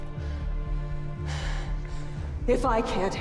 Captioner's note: Ava panting